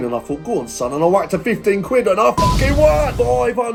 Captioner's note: beep